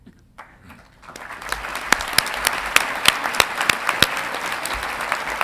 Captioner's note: audience clapping